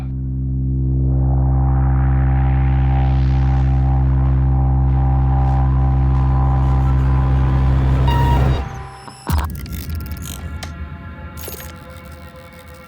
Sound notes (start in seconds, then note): 0.2 tense music; 8.0 computer bleeping